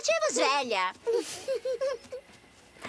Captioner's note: giggling